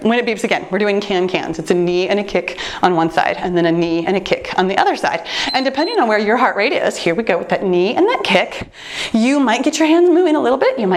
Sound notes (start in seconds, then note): 5.4 timer beeps